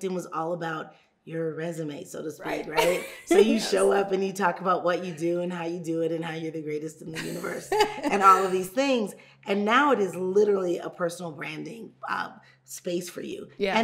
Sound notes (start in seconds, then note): 2.8 laughing; 7.1 laughing